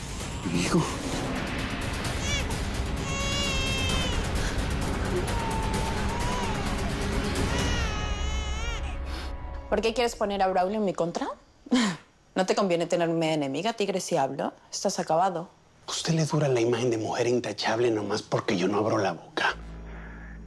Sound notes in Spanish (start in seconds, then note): 5.1 Llanto del bebé